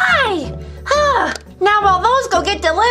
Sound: sighs

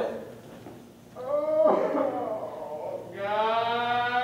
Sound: crying

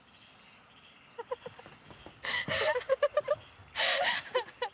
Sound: laughter

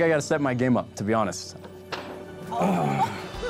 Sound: clears throat; paper snaps

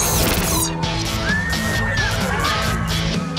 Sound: screaming

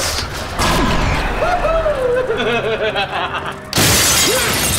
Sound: laughing

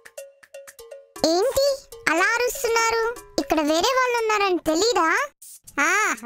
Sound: very cute voice

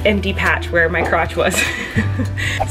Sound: laughing; whooshing

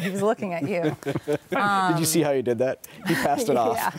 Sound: laughs

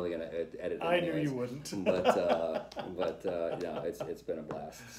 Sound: laughter

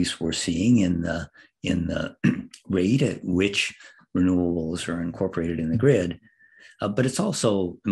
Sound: cough

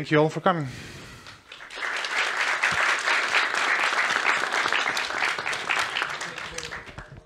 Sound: applause

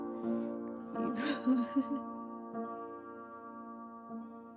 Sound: laughs; piano fades

